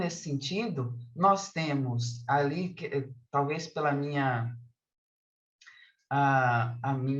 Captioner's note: continues speaking in Portuguese